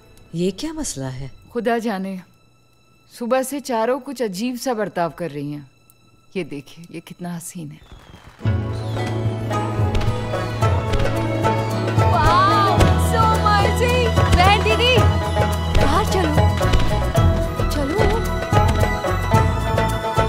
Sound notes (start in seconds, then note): 7.8 Firecrackers crackling